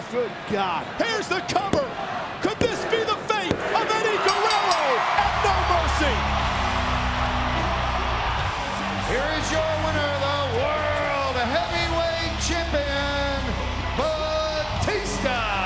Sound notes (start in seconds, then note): 6.0 crowd cheering; 6.0 upbeat rock music